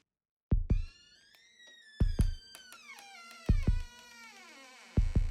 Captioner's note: door creaking